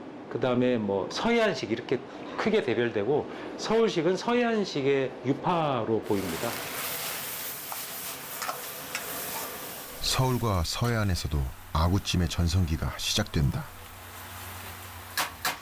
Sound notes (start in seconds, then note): 6.6 sound of stir-frying anglerfish stew on high heat